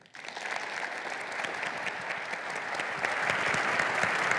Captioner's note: applause